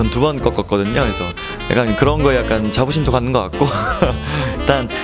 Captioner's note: laughs